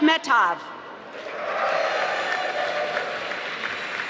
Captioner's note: applause